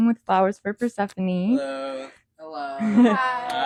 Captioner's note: all say hello/hi & laugh